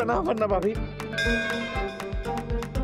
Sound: bell rings

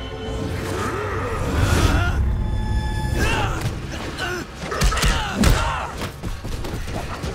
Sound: grunting

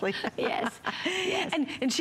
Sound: laughter

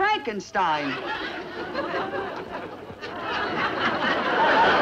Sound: audience laughs

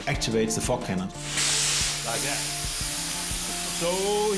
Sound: fog hisses

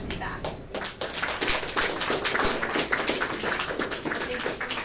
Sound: audience applause

